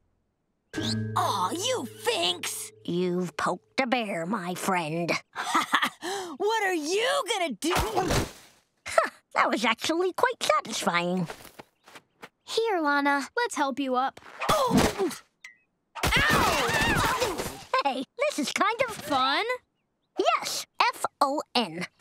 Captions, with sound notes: Aw, you finks! You've poked a bear, my friend. [laughing] What are you going to do-- Huh. That was actually quite satisfying. - Here, Lana. - Let's help you up. [groaning] - Ow! [screaming] - Hey, this is kind of... - ...fun? Yes, F-O-N, fun.